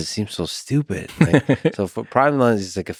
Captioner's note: Tim laughs